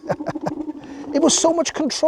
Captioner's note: laughs